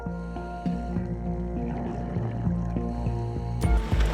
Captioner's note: scuba breathing